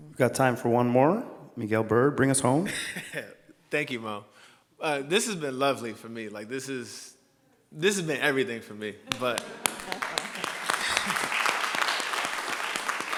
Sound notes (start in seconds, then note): 4.2 laughs; 9.0 all laughing and clapping